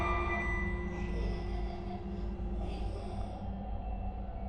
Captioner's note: distant laughter